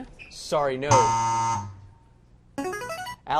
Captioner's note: buzzer; buzz